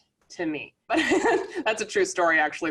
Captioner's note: laughing